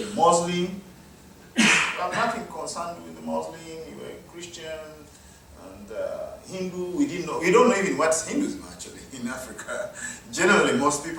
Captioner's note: audience member coughing